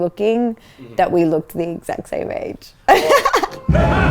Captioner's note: laughs; laughing